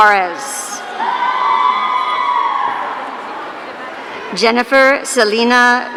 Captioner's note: audience cheering